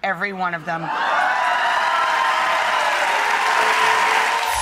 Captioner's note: audience applauds